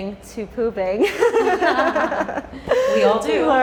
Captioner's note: laughing